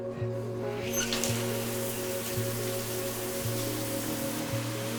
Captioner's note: shower running